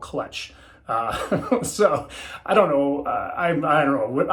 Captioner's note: chuckles